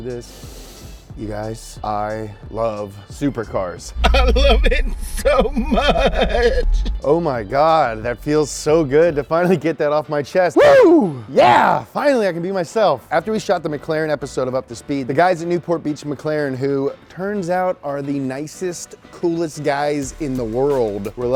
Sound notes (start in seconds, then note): 0.3 inhaling; 5.9 crying; 10.5 yells